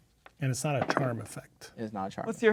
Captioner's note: dice rolling